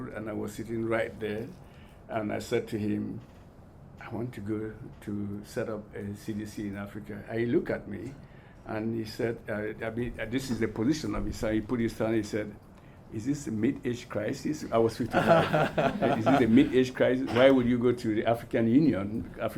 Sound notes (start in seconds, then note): 15.1 all laugh